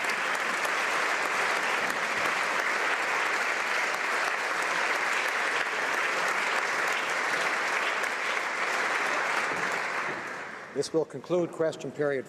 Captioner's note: applause